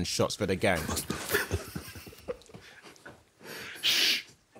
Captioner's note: group quietly laughing